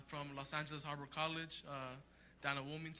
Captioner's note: speaks Spanish